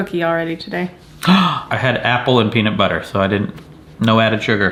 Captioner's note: gasps